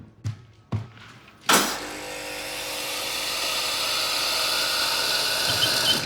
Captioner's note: espresso machine chugging